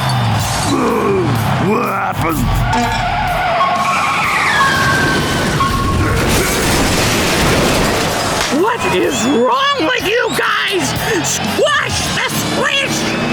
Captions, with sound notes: Oh, what happened? [beeping] What is wrong with you guys?! Squash the Squish!